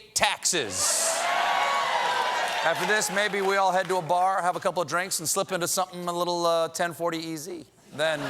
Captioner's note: applause